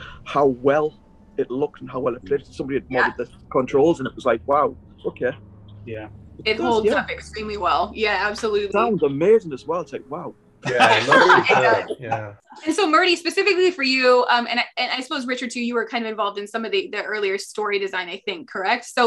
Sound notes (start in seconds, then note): 10.6 laughing